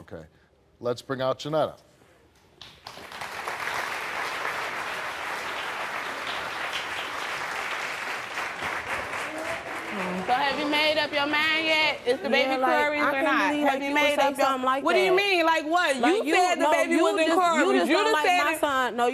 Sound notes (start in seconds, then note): 2.7 audience clapping